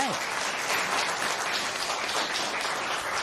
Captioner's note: applause